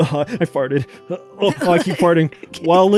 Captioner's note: chuckles